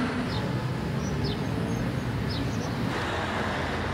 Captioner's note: birds chirping